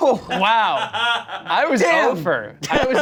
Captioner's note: laughs